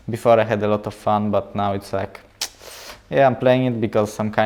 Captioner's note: smacks teeth